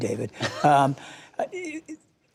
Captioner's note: laughter